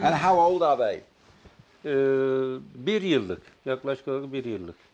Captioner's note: speaks turkish